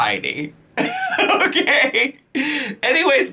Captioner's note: laughs